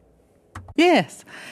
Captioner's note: speaking French